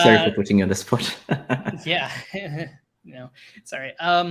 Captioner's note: laughing